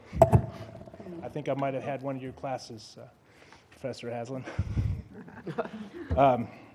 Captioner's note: laugh